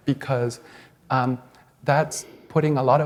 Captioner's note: none